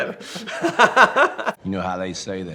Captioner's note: laughing